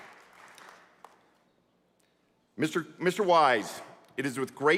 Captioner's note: applause